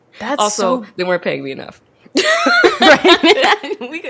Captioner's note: laughs